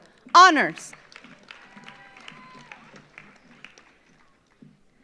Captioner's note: audience applauds